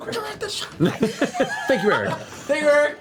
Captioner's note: laughter